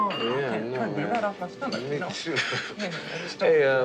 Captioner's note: Charlie chuckles